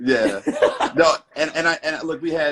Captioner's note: laughing